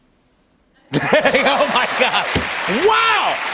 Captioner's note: laughter